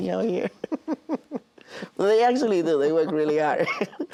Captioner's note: both laugh